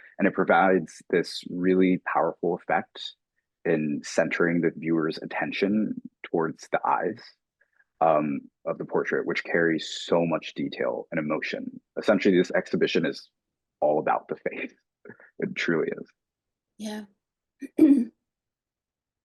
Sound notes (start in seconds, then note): 14.4 chuckling